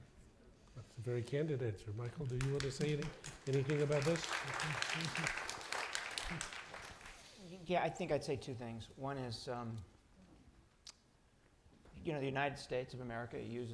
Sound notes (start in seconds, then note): 5.0 applause